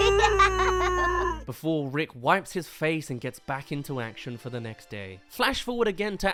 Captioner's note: laughs